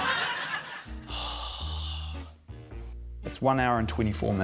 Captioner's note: sighs